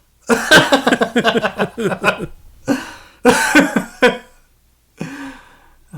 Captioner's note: both chuckling